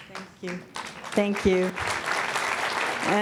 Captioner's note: audience applauds